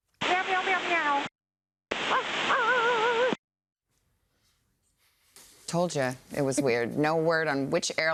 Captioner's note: cat and dog sounds